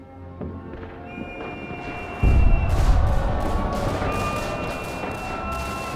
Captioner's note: weapons firing